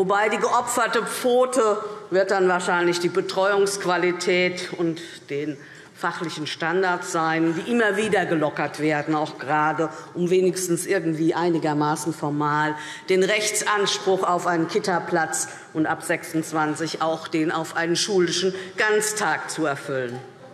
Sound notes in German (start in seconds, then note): none